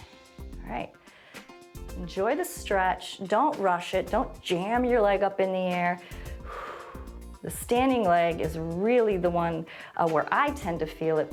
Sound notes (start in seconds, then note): 6.0 exhales